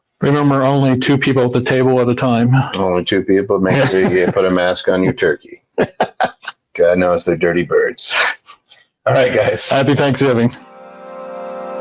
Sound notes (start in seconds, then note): 5.4 laughs; 11.6 upbeat music